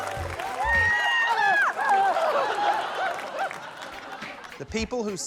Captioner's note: applause; screaming, shouting